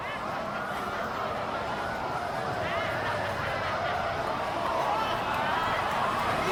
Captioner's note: the sound of laughter over sirens